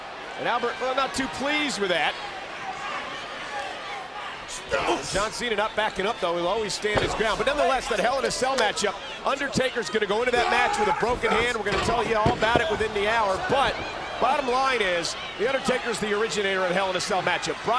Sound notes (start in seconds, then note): 2.2 applause